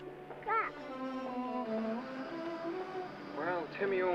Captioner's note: babbles